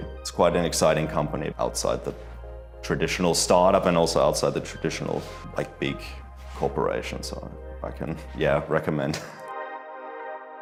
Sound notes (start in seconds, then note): 9.0 chuckles